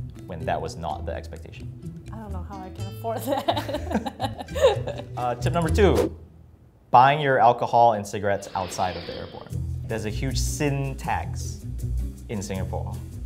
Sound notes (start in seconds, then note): 3.2 laughs